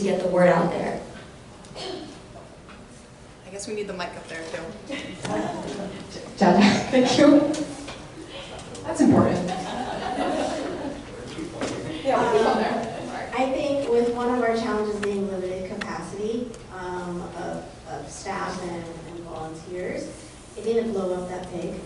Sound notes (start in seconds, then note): 9.4 laughter; 9.4 audience laughter